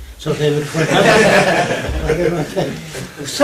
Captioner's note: laughter